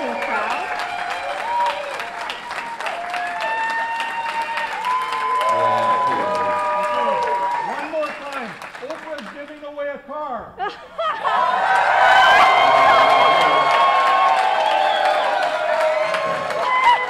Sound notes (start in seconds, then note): 0.0 crowd cheers and applauses